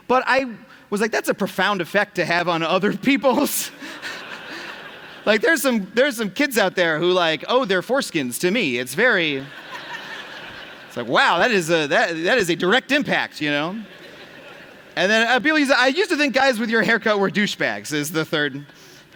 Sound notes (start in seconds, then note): 5.0 laughter